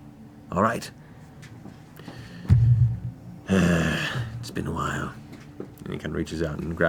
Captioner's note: sighs